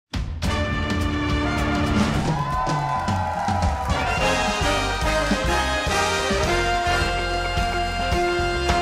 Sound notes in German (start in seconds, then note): 1.5 Dynamische Musik; 4.0 Jubel